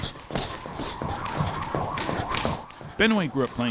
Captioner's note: jump rope thumping on the ground